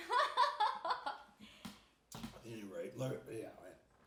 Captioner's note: laughing